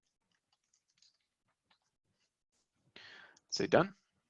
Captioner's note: keys clacking